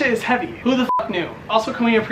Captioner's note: beep